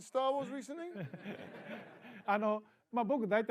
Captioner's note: laughter